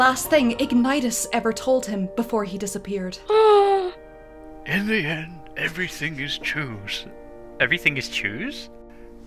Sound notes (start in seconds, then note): 3.3 gasp